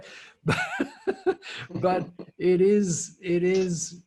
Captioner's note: laughs